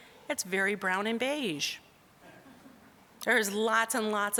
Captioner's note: audience chuckling